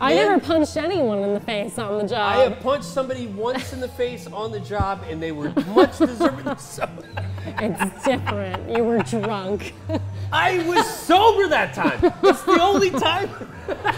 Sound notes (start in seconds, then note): 5.4 laughs